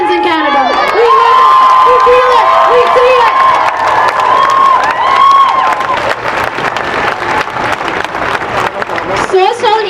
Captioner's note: cheering and applause